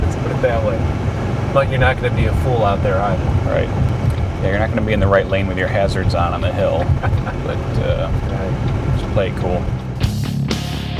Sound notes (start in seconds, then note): 6.4 laughter